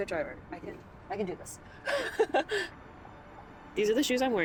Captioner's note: laughs